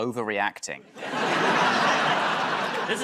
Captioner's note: laughter